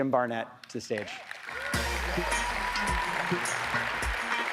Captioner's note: audience applauds; jazzy music